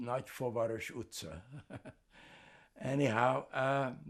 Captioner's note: laughing